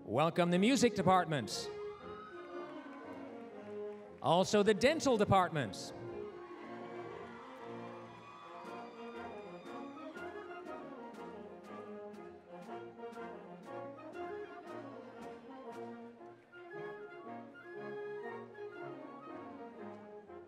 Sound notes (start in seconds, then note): 2.0 applause, cheering; 6.5 applause, cheering; 11.2 orchestral music